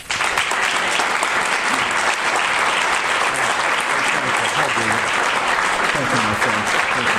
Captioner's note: audience applause